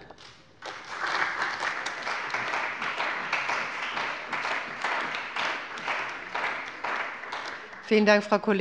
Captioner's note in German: Beifall bei der CDU